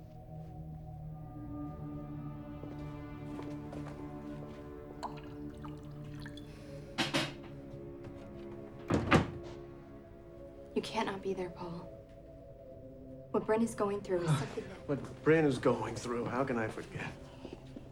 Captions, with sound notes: (tense music) (whiskey glugging) (closer door thuds) - You cannot be there, Paul. What Brin is going through is something that- - Ugh, what Bryn is going through. How can I forget?